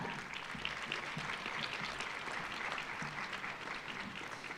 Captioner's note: audience applauding